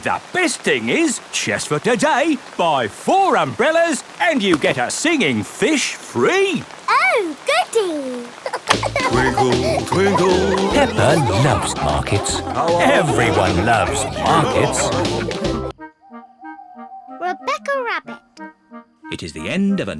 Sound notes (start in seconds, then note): 8.3 giggling